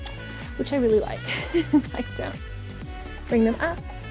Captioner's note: laughs